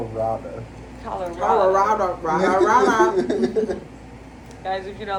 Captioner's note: laughs; lauhgter